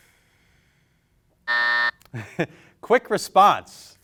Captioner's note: buzzer sounding